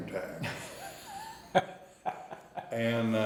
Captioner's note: interviewer laughing